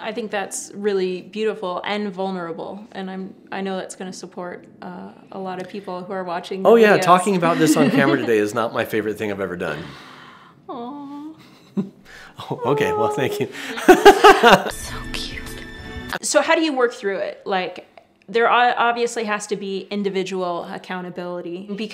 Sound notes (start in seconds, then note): 7.4 chuckles; 12.4 laughs